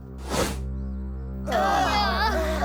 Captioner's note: all groaning